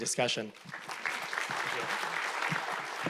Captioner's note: audience applauding